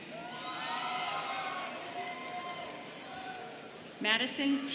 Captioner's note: students cheering